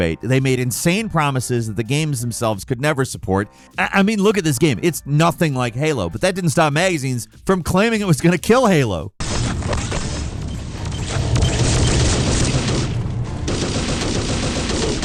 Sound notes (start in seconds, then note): 9.4 tense dramatic orchestral music; 11.0 gun blasting